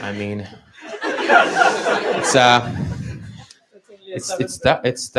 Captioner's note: laughter